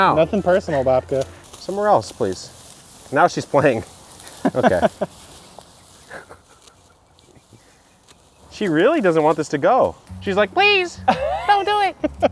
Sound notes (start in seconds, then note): 6.0 laughing